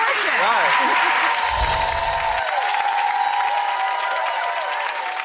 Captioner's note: audience cheering